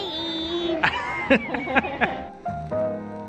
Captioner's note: laughter; gentle piano music